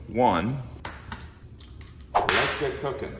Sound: egg cracking; whip cracking

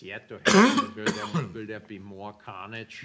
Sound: speaker drowned by coughs

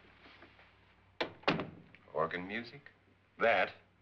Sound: door closes

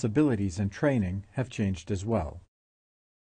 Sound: voiceover

